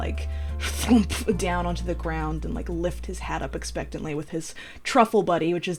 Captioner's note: fwumph